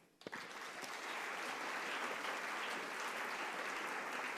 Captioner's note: audience clapping